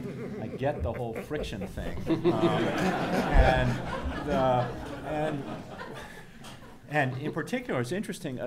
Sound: background laughter

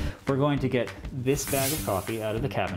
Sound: air whooshes

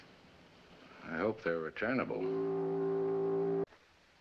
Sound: boat whistle blows

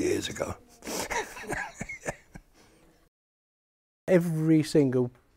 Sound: he chuckles

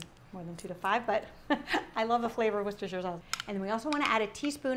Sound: laughs

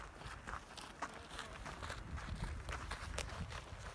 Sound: feet scrapping

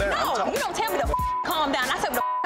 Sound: beep

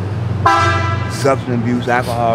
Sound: vehicle honking

